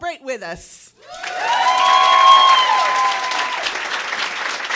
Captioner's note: cheers and applause